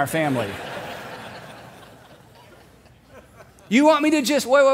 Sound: congregation laughing

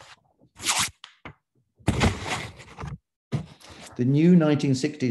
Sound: paper shuffling

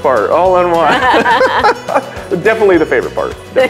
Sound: laugh

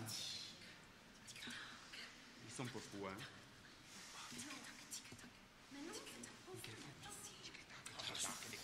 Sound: two people whispering strange noises and discussing

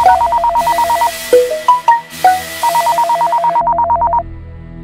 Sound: phone ringing

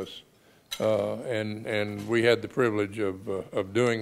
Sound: none

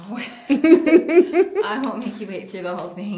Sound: laughs

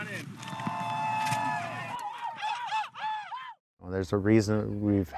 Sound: boys cheering

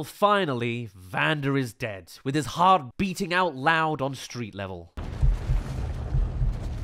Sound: heartbeat

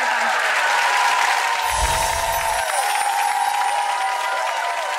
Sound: audience cheering

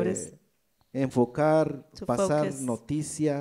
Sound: speaks in foreign language

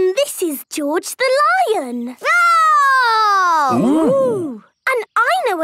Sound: roaring

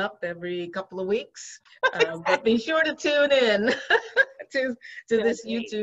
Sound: laughs

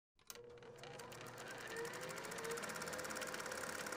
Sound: sound of an old projector firing up

